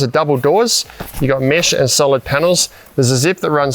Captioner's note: canvas flapping